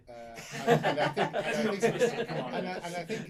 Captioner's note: all laugh